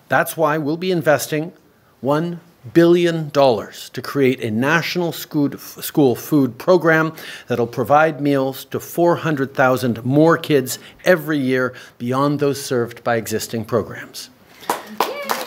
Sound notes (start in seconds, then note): 14.6 applause